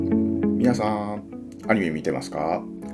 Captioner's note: none